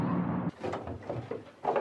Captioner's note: door opening